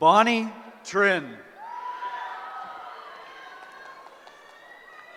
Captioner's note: cheering